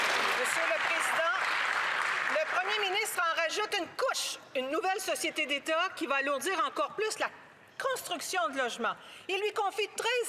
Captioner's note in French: applaudissements